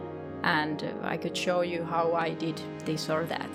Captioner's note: none